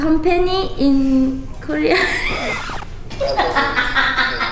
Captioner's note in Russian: смех